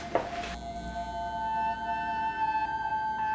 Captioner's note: lights buzzing